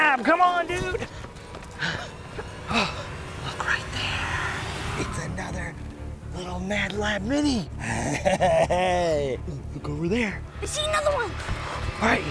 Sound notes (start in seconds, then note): 1.5 both panting; 7.8 laughing